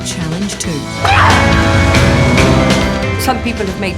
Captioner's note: car skidding